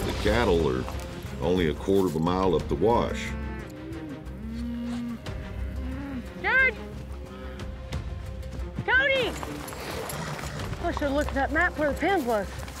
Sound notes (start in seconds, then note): 5.0 cattle moo